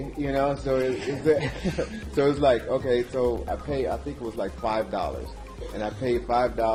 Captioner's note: laugh